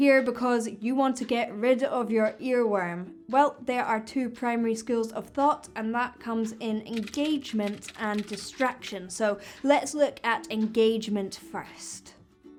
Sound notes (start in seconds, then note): 6.8 keyboard typing